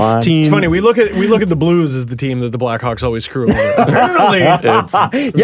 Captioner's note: laughs